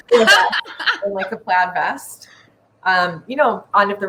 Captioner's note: laughing